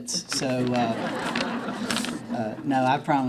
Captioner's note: laughing